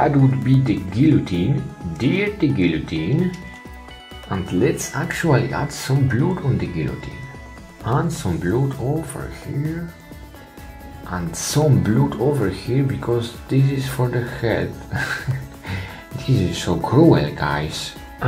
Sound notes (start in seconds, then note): 14.9 laughs